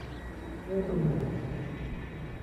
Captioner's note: roar echoing